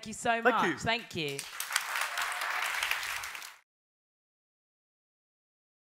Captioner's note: applause